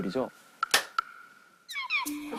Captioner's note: clap